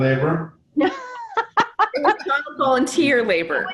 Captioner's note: laughs